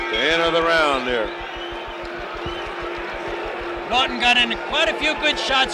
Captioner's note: bell sounds